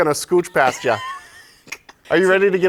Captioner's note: laughter